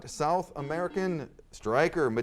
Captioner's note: buzzer sounds